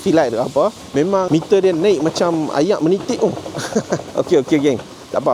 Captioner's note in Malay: laugh